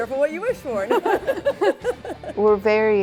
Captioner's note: laughs